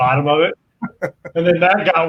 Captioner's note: chuckles